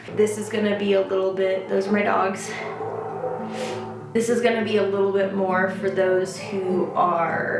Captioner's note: barking